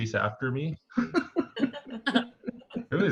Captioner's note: laughter